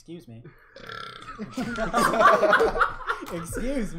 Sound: belches; belches louder

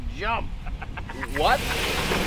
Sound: laughs

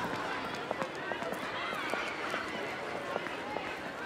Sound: student chatter

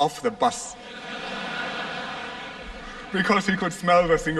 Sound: laughter

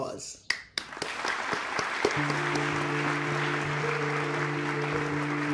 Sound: applause

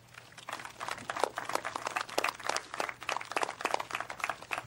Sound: speaking French

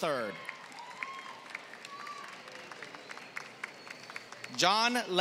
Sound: applause

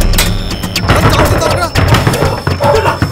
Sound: knocking

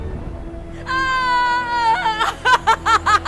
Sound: cheering intensifies

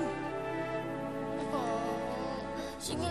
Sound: whines

